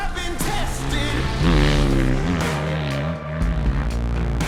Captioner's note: engine revving